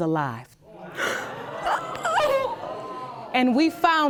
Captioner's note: audience gasps; gasps